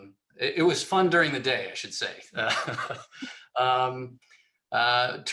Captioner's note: laughs